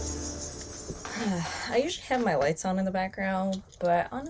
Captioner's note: exhales